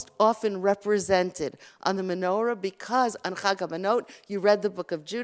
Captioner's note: Hebrew